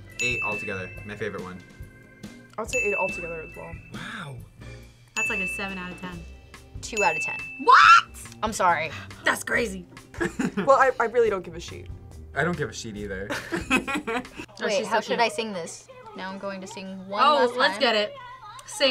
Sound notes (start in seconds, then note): 10.1 laughs; 13.3 both laugh